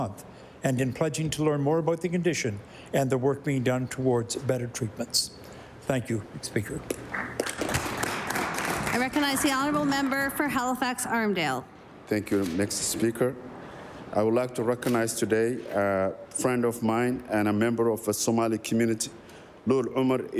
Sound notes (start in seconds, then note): 11.0 applause